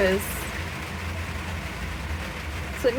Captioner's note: heavy rain